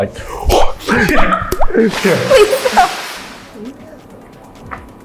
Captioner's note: water splashes